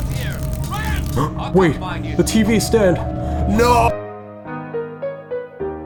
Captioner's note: gasp; sad piano